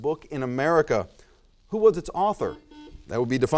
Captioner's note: buzzer noise